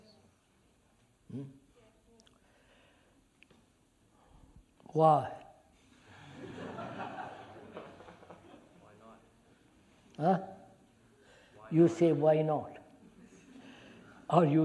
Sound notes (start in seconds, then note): 6.0 laughter